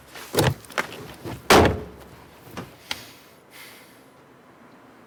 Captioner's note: door thudding